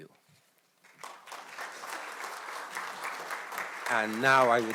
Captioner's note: audience clapping